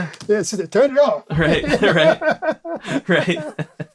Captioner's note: laughs